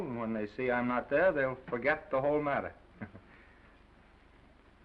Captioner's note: chuckles